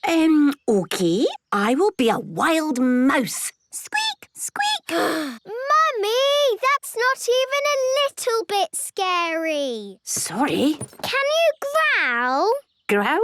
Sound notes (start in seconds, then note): 5.2 sighs